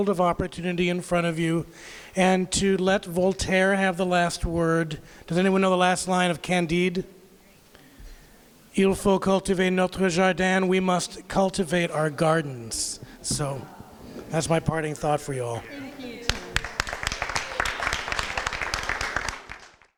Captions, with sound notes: of opportunity in front of you and to let Voltaire have the last word, does anyone know the last line of Candide? [speaks in French] "We must cultivate our gardens." So, that’s my parting thought for you all. [applause]